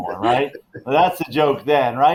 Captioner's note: all laughing